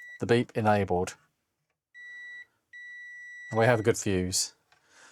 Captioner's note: beeping